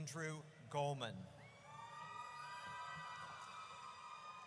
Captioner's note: audience cheers